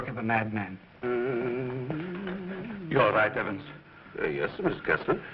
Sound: humming

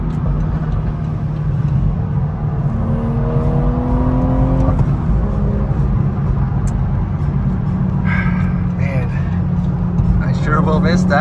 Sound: car engine

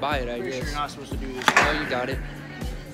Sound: crack

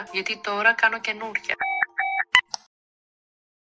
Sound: phone hungs up sound

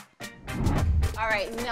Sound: scene change swooshes

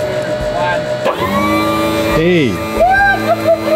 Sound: machine roaring; cheering sound

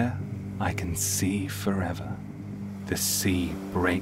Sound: waves crashing

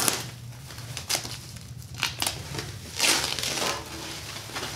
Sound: bubble wrap tearing

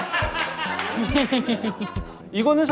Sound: laughing

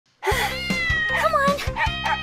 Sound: cat meowing

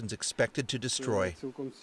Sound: speaking Alternate Language

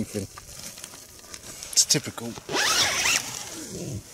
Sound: zips tent back up

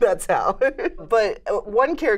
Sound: laughs

